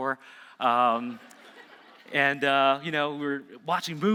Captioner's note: audience laughing